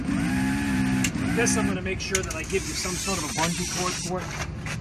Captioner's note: steps